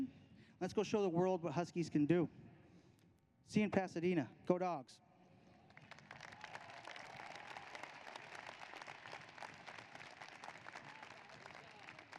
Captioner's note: applause